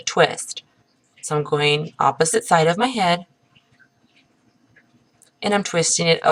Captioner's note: pause